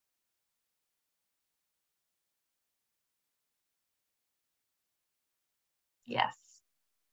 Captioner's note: silence